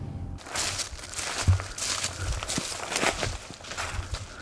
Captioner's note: leaves crunching